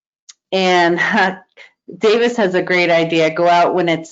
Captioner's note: chuckling